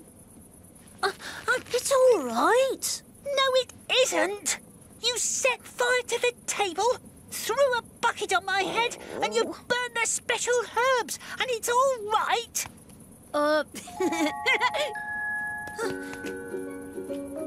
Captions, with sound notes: No, it isn't! You set fire to the table, throw a bucket on my head, and you burn the special herbs, and it's all right? [giggles] [slow tropical music plays]